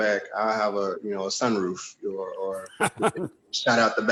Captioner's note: laughs